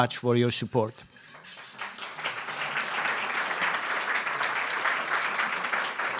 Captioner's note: applause